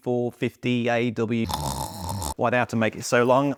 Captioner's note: snoring